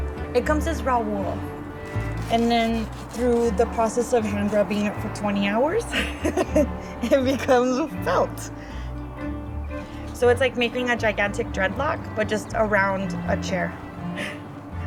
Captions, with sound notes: it comes as raw wool and then through the process of hand rubbing it for 20 hours, [LAUGH] it becomes a felt. So it's like making a gigantic dread lock but just around a chair.